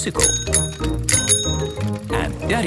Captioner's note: bicycle bell dinging